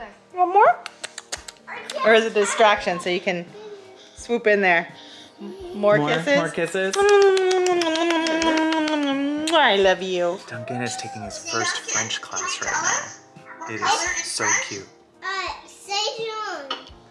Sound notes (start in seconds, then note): 0.8 kissing noises; 5.4 baby noises; 6.8 kissing noises; 12.8 noises from the class